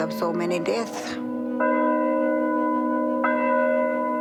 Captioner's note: bell tolling